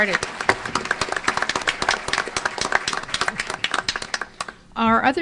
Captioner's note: applause